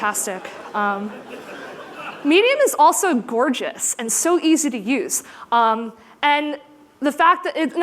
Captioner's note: laughter